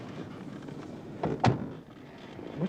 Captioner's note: door closes